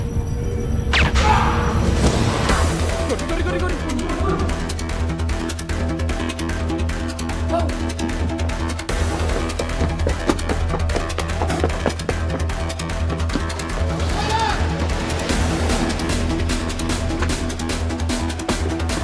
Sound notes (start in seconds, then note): 0.9 gunshot; 4.5 intense music playing; 9.2 running footsteps